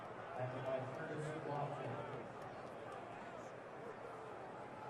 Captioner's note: pa announcement